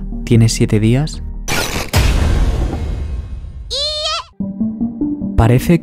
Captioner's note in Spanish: sonido chirriante